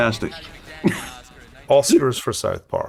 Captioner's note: H.R. laughs